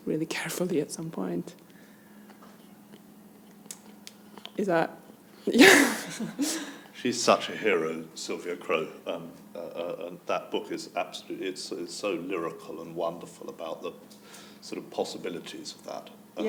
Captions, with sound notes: really carefully at some point. Is that? (chuckles) - She's such a hero, Sylvia Crowe, and that book is absolutely, it's so lyrical and wonderful about the sort of possibilities of that.